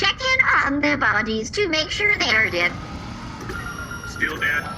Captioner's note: sound of scanners activating